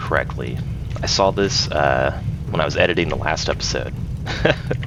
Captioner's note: laughs